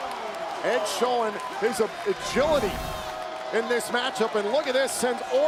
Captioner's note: laugh